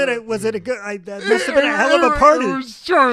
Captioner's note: laughs